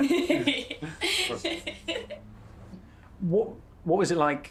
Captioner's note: laughing